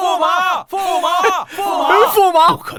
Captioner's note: continued shouts of astonishment